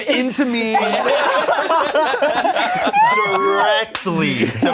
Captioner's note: everyone laughing